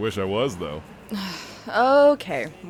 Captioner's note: sighs